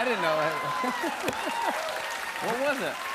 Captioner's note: cheering and applause; laughs